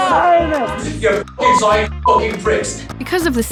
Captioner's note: beep